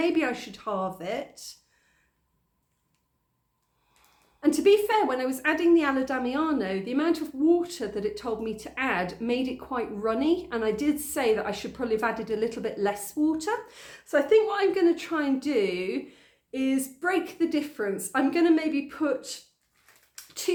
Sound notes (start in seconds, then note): none